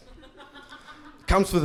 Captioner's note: lady laughing